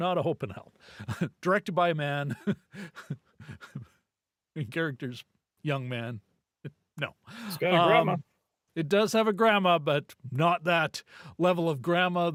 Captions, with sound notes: not a hope and help, directed by a man, (laughs) characters, young man, no. It's got a grandma. It does have a grandma, but not that level of grandma